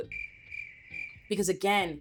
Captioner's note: crickets chirping